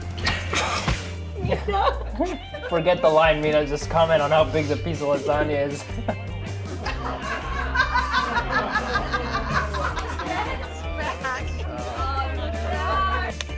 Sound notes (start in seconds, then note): 1.4 light giggling; 5.7 light chuckling; 5.8 loud laughing